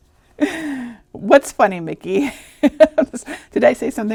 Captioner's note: chuckling; laughing